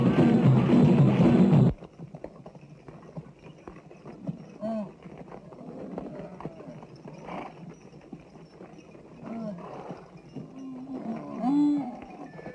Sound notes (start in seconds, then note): 5.4 camels grunting